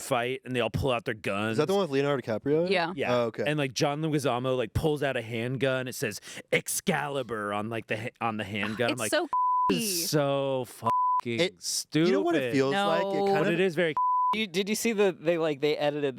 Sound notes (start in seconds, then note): 9.2 beep; 14.0 beep